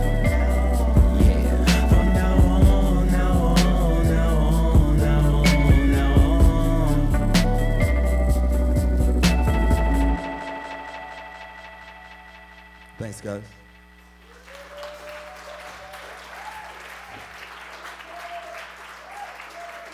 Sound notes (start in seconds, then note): 14.2 audience cheering and applauding